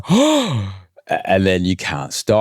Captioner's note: gasps